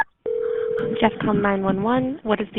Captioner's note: phone dial tones; phone ringing